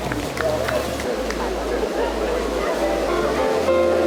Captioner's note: chattering of the crowd; happy music